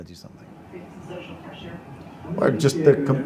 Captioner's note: audience murmuring